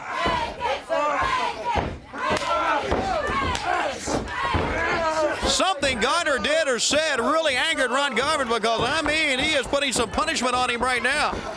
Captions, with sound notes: STILL GONNA TRY TO TURN HIS HEAD AROUND SO HE'D SEE BACKWARDS. >> [CROWD CHEERING] >> SOMETHING GARNER DID OR SAID REALLY ANGERED RON GARVIN BECAUSE I MEAN, HE IS PUTTING SOME PUNISHMENT ON HIM RIGHT